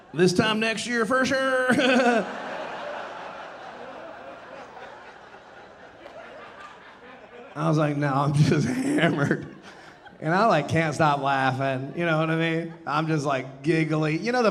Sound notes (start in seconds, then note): 1.5 laughing; 1.9 audience laughing